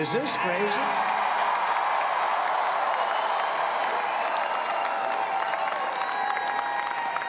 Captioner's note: applause